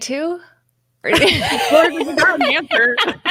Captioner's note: laughs loudly